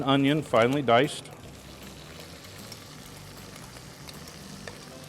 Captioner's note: food sizzling